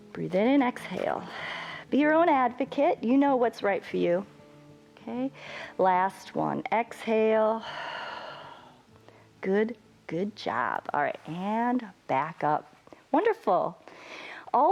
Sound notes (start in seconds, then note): 1.1 exhales; 7.6 exhales